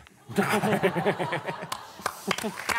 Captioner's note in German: Applaus